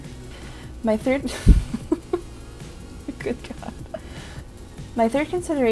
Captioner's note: breaks into laughter